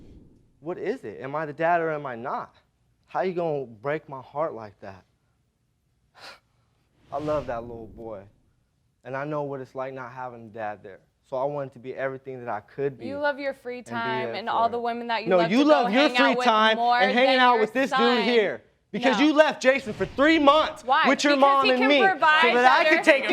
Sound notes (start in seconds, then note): 5.6 scoffs